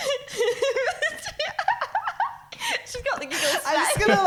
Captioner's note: laughing